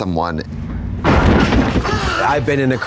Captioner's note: car whumping